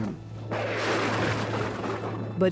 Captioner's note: thunder roars